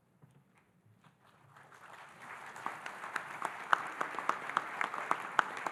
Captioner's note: audience applauding